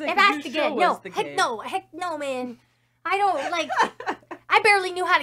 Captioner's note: laughs